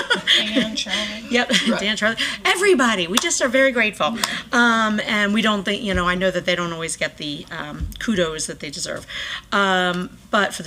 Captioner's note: laughter